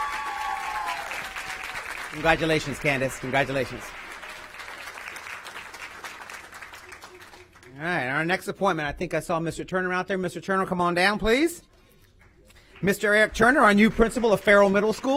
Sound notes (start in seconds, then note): 7.1 applause